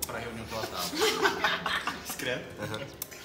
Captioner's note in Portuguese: Risadas